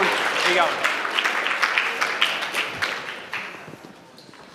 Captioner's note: applause